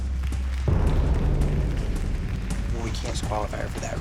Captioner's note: applause; tense music